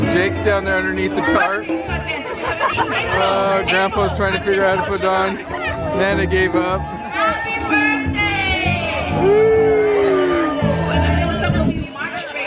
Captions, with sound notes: Jake's down there underneath the tarp. (laughing) Grandpa's trying to figure out how to put it on. Nana gave up. - Happy Birthday! (cheering)